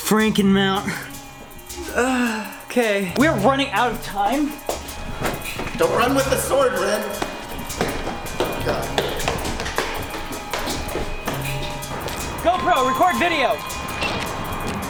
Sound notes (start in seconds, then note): 1.4 groans; 9.3 tense music